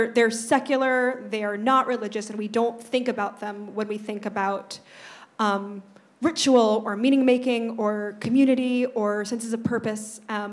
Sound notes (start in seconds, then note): none